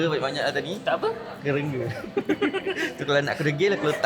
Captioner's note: laugh